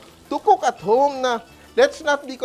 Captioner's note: sizzles